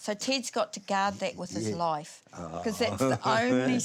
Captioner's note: laughs